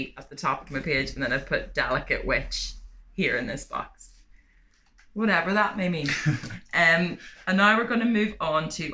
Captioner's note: laughter